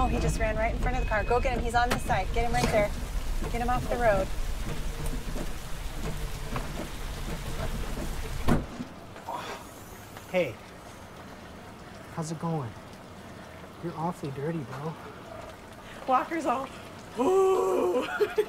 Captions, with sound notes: He ran in front of the car, get him, he's on this side. Get him off the road. (RAIN FALLING) (OPENING TRUNK) Hey, how's it going? You're awfully dirty, bro. Walker was all 'Uhhhhh!'